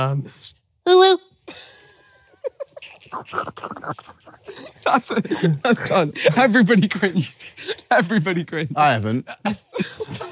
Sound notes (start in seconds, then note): 2.3 awing